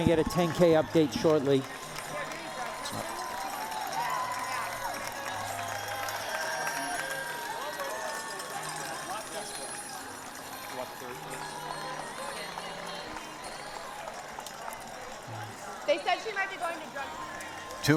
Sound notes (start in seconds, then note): 0.0 cheering; 8.7 applause; 8.7 cheering